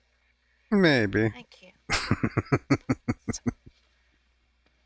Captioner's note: chuckling